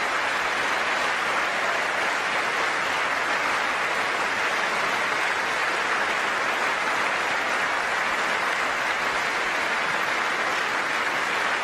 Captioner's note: applause